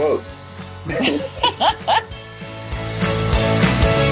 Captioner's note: laughing; upbeat music